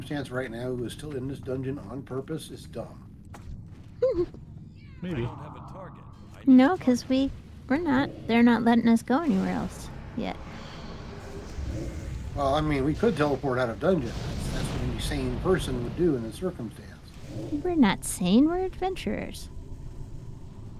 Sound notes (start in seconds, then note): 4.0 laughing